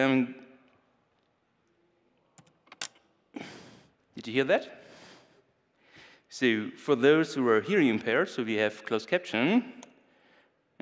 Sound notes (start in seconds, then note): 2.7 clicking sound